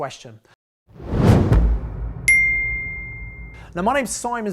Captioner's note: dinging